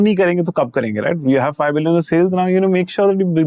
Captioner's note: in English